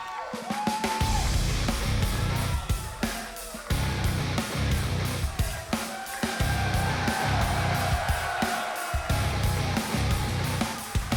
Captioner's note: cheers & applause